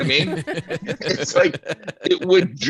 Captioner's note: laughing